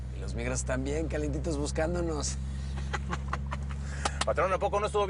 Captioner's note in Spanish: Ríe